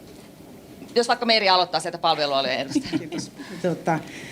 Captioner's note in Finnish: naurua